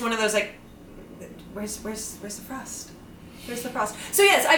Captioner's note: lower voice